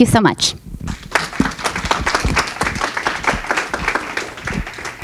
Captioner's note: audience clapping